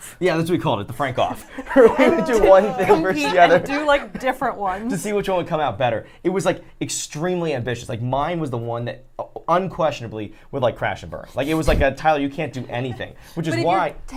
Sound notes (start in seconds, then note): 1.2 laughs